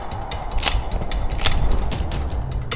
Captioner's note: cocks rifle